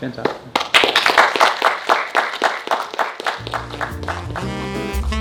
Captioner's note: audience clapping; jazz music